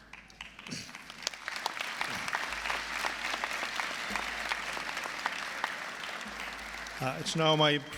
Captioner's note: applause